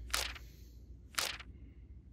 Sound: page flip

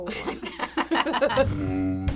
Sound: laughing

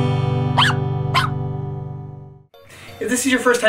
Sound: dog barks

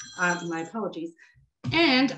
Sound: phone rings

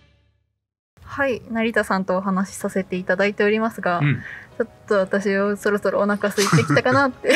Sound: laughs

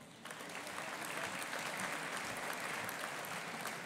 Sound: audience applauding

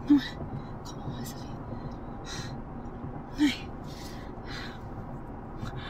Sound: Janet speaking Spanish

